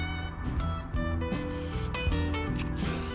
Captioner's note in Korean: 후우; 후루룩; 후룩